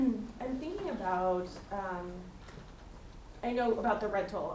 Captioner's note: attendee Through Translator